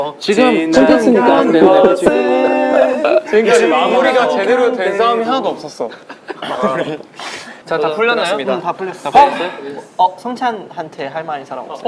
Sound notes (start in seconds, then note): 6.2 laughing